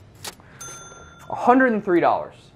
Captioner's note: cash register dinging